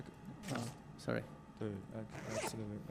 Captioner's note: bag zipping